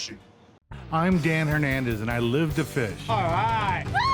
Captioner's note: voiceover